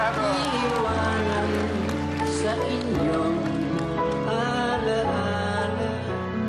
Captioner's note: applauding